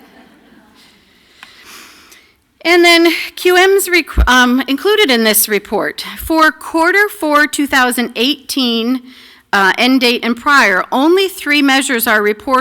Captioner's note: laughter